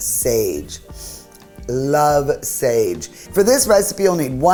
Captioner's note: sniffing